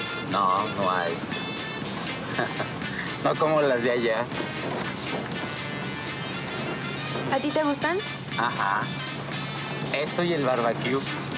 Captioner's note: speaking in Spanish